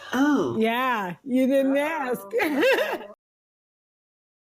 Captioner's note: laughs